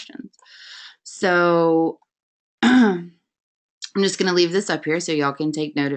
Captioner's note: clears throat